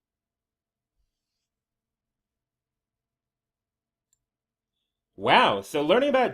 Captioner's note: very long pause